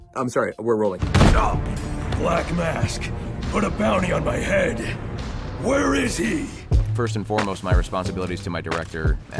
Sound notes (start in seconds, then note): 1.4 groans; 1.8 glass shatters